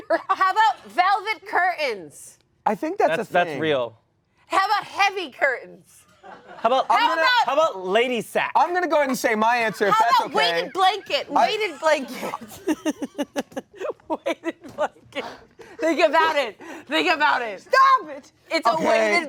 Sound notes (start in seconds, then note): 12.3 all laugh; 15.6 laughs